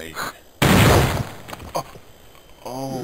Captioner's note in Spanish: Disparo